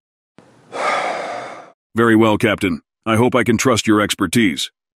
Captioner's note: sighs